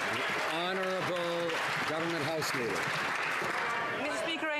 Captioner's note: some Applause